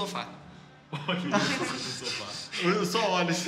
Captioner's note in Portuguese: Risadas